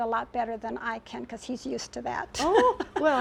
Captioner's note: laughs